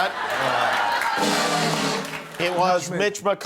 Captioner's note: horn